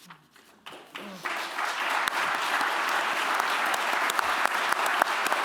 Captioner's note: applause